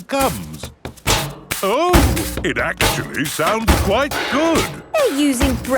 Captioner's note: rhythmic clanging